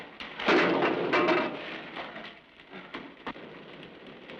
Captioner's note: loud bang